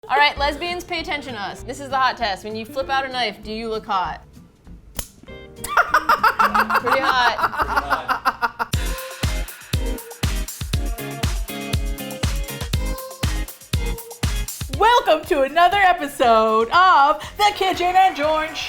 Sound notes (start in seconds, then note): 5.6 laughs with delight; 8.4 upbeat Music